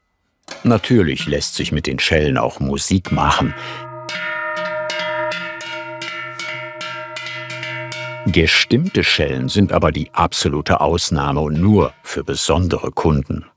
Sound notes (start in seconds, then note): 3.9 deep sounds of bells